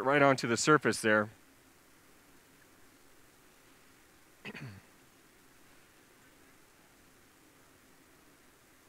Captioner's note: pause; clearing throat